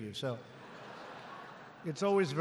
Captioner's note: laughter